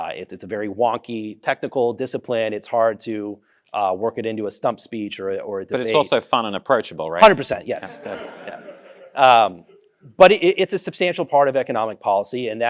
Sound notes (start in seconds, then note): 7.8 audience laughing